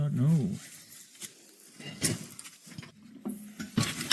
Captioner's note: scraping